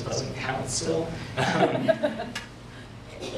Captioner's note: mild laughter